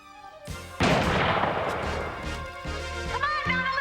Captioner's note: gun firing